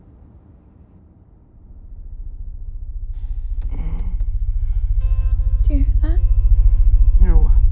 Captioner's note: helicopter approaching